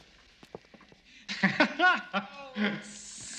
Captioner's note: laughter